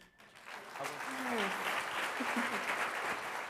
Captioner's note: applause